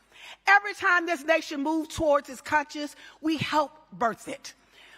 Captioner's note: none